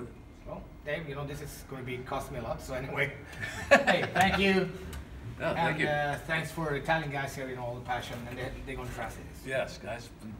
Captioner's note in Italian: ridendo